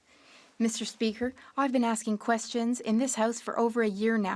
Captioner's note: speaking French